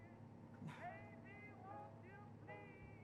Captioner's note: quietly